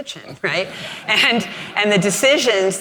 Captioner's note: audience laughing